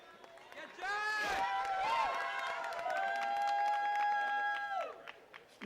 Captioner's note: attendees cheering and clapping